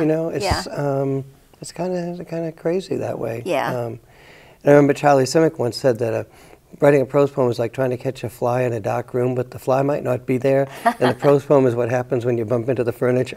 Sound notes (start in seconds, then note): 0.0 laughs; 10.7 chuckles